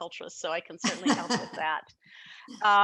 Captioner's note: laughing